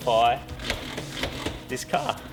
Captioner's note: gear shifter rattles